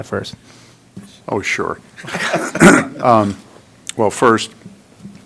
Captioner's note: members laughing